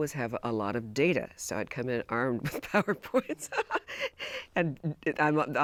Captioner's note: laughs